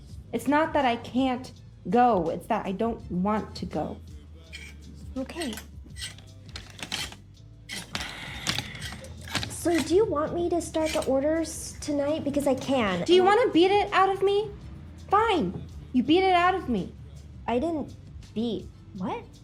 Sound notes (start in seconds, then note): 4.5 hangers scrape rack; 7.9 Thomasina sighs